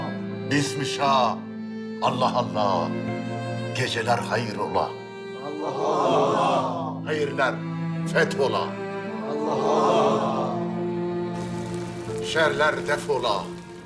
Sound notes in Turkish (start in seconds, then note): 5.3 Hep bir ağızdan; 9.1 Hep bir ağızdan